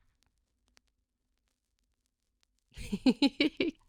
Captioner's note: laughing